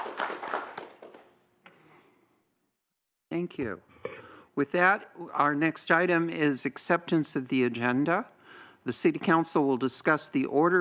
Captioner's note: applause